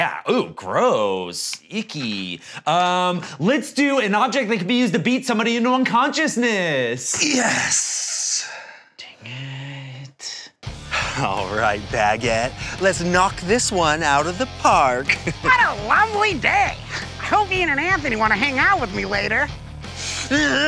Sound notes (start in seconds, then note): 12.0 intense music; 15.1 laughs